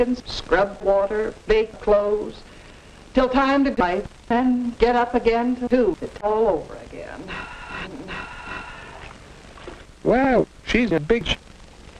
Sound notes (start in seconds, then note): 7.3 sigh; 7.6 higs